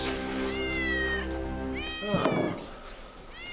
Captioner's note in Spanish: gato maullando